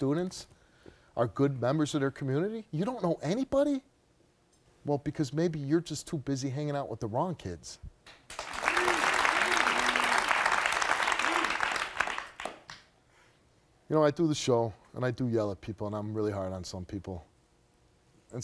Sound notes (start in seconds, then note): 8.2 audience applauding